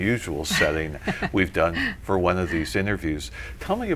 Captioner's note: laughter